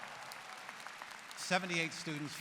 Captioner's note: applause